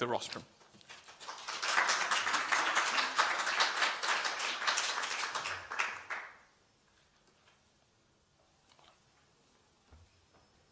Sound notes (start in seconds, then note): 0.8 applause